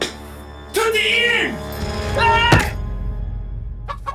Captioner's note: ominous music; Siegmund yelling in German; punch thudding; chickens clucking